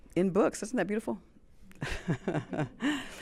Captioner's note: chuckles